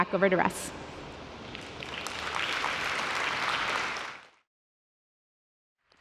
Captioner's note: applause